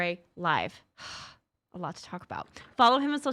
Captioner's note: exhaling